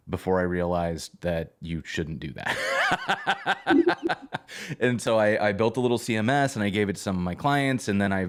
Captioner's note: laughter